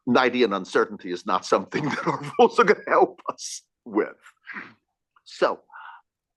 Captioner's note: laugh